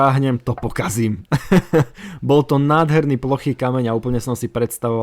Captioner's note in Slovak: smiech